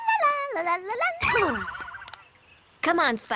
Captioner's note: boing!